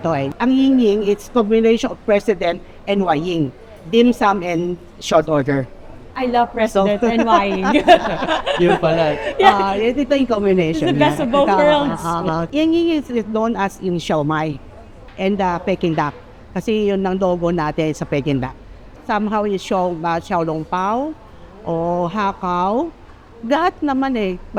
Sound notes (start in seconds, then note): 6.7 laughs